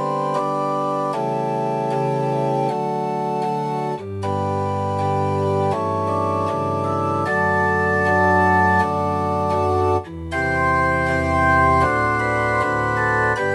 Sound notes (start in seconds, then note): none